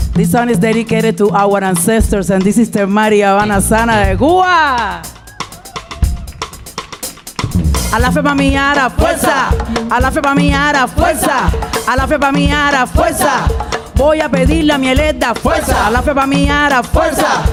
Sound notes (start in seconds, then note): 3.0 speaking in Spanish; 4.7 audience cheering; 7.6 bright music; 7.6 singing in Spanish